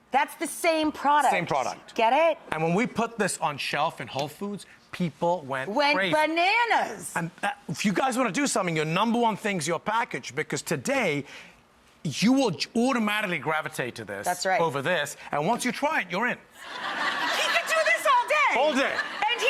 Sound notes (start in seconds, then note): 16.6 crowd laughs